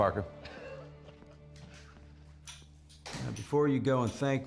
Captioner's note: chuckling